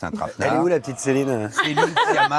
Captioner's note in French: rires